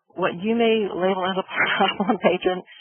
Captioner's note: laughs